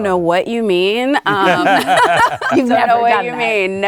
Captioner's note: laughing